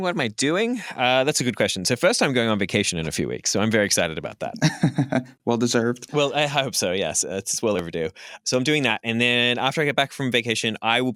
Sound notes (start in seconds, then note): 4.5 laughs